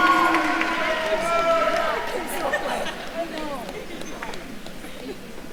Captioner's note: attendees cheering and applauding; group chattering